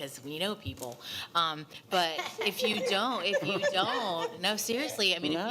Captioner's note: attendees laughing